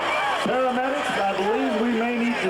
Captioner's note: people chattering